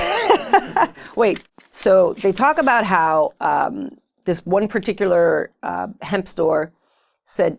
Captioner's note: laughing